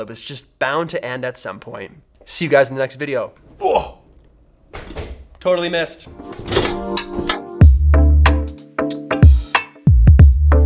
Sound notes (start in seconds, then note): 3.6 grunting; 6.1 light music; 6.1 hitting